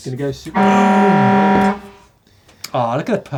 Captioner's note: horn blaring